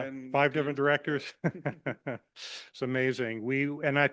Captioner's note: laughs